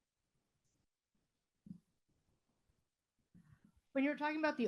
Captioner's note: silence as mic gets passed to another attendee